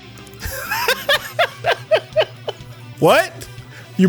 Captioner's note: laughs